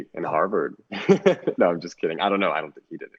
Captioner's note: laughs